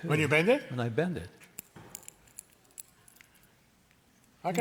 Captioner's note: tin crackling